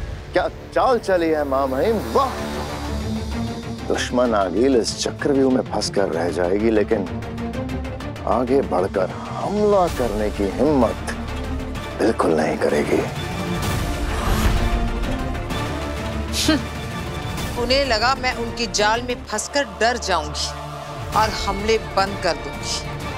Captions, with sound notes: What move you've made, your excellency! Aageel will be trapped in this puzzle but she won't dare to step forward and attack us. [sneers] They thought I'll be scared and I'll call off the attack.